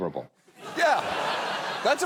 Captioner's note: studio audience laughs